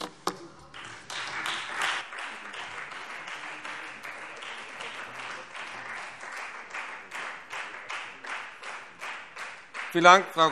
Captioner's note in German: Beifall Freie Demokraten